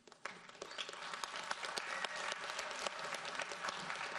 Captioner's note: audience applauds